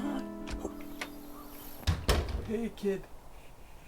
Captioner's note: door opens, shuts